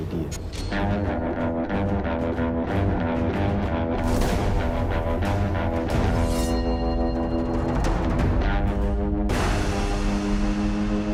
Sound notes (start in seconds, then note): 2.3 western music plays; 6.3 sword rings